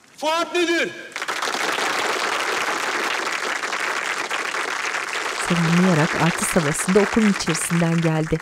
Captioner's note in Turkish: Alkış sesleri